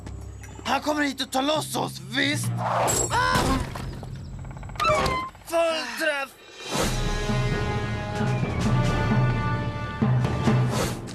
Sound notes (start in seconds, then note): 4.7 sighs